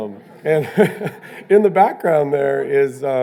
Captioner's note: laughs